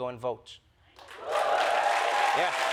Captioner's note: cheers and applause